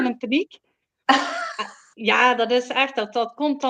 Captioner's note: laughs